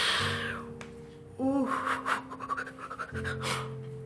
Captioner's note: woman crying